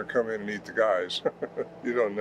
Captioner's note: chuckles